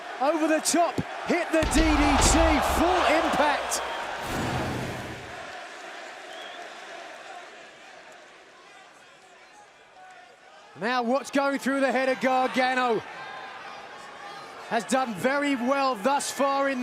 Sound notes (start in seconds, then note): 6.6 crowd chatter